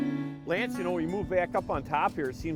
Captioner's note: voiceover